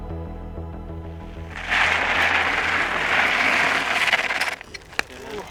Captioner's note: bike whirs to a halt